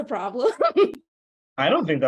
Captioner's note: chuckles